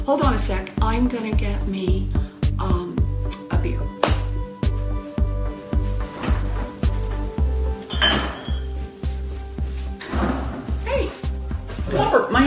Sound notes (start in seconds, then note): 7.8 clinking